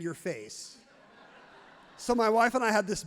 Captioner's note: audience laughs happily